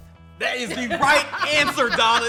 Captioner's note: laughs